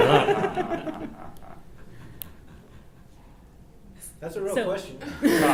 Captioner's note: laugh